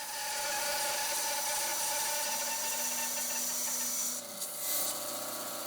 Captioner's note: bandsaw grinding